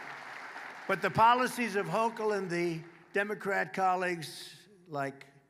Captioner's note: applause